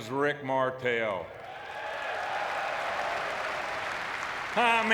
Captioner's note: audience cheering